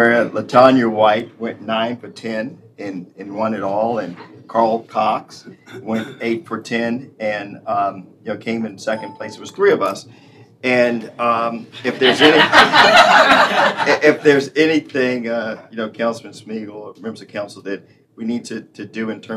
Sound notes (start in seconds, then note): 14.8 laughter